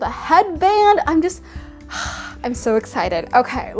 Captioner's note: sighs